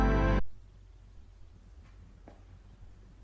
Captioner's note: silence